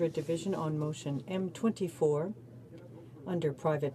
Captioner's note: speaking in french